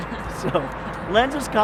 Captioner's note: laughs